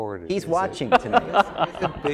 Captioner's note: laugh